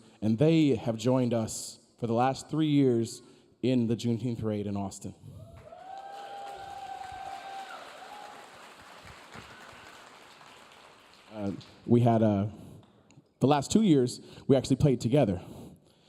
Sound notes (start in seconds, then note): 5.4 audience cheering; 5.5 audience applauding